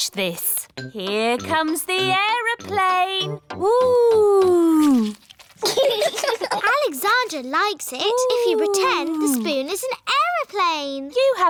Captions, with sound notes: Watch this. Here comes the aeroplane! Whoo! (LAUGHTER) Alexander likes it if you pretend the spoon is an aeroplane.